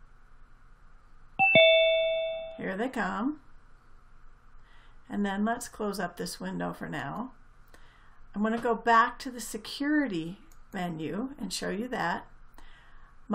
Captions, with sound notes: (video chiming) Here they come. And then let's close up this window for now. I'm going to go back to the security menu and show you that.